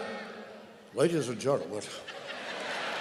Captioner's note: laughter